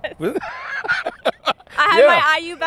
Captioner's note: laughs